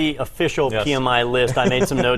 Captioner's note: laugh